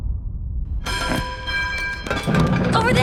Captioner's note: bell rings